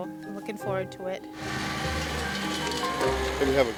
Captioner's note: tractor engine running